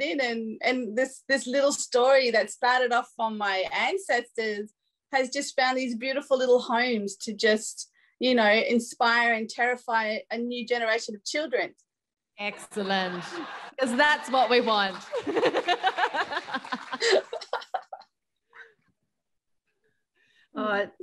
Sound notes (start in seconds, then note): 12.6 audience laughing; 15.1 laughs